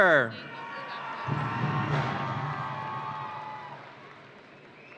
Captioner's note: audience cheering